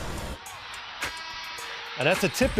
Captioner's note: buzzer